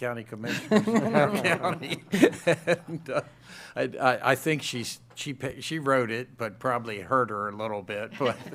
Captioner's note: laughter